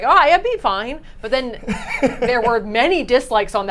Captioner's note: chuckles